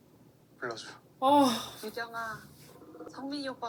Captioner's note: sigh